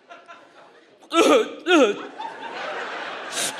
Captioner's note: sobs; audience laughs